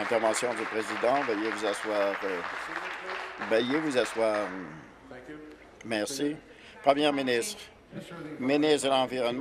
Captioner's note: applause